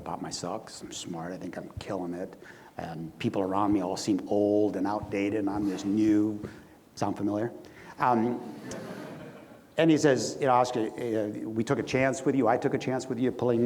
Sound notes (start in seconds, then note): 8.5 audience laughs